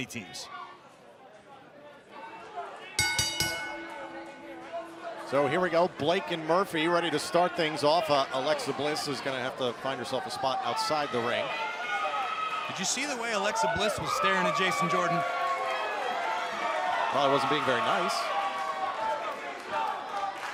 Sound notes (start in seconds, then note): 1.3 crowd chatter; 3.0 bell ringing